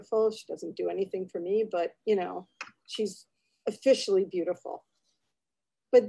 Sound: none

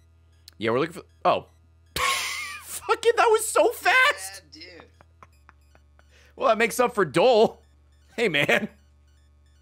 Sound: laughs

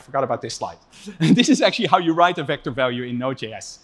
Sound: laughs

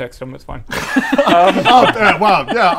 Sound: nonchalant laughter

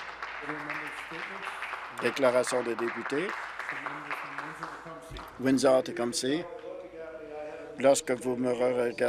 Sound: applause

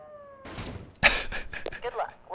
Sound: laughs

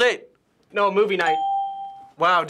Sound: ding

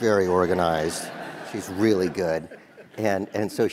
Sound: laugh

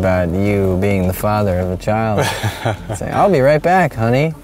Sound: laughing

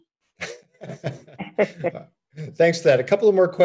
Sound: staff laughs

